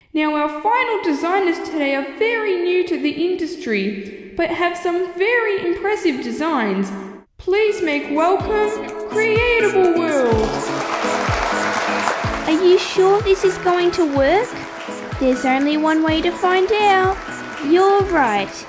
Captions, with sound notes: Now our final designers today are very new to the industry, but have some very impressive designs Please make welcome, Creatable World! (Applause) Are you sure this is going to work? There's only one way to find out You're right!